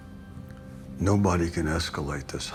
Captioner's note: none